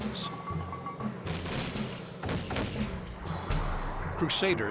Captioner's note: gunshots